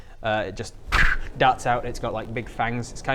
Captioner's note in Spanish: ppprsch